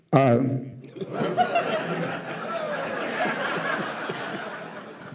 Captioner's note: audience laughing